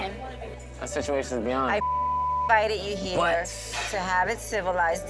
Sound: beep

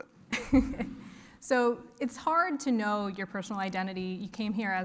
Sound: laugh

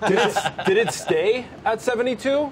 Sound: laughter

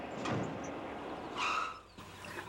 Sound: tirescs reech

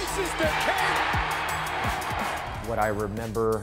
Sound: crowd cheering

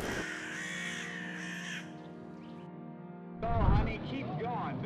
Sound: birds chirping

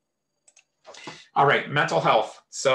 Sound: mouse clicks

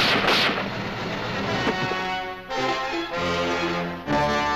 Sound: gunshots

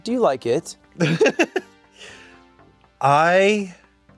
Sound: laughs

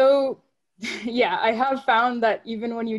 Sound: chuckles

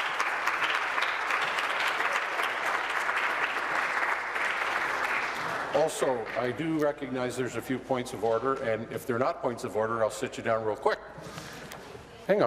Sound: applause

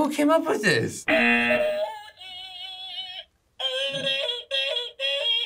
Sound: yodels; buzzer

